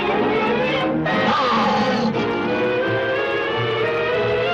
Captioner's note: gorilla snarls